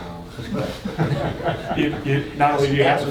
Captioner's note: attendees chuckling